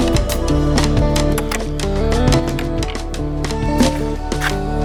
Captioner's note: gate Clicking